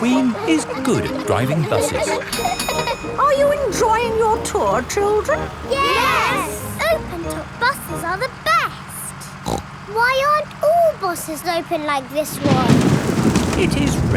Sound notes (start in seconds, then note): 9.3 snorts; 12.2 thunder crashing